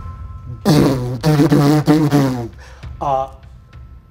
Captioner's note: imitates magical blasting